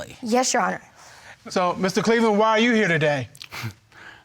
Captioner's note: chuckles